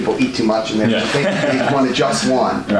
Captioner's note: laughs